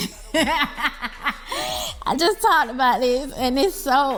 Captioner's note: laughs